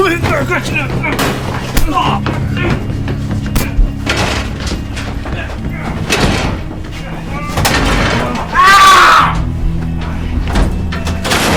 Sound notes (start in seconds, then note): 2.1 Jack grunts; 9.1 Helden grunts